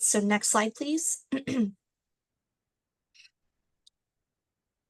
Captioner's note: clears throat